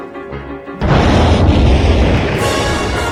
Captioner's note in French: Explosion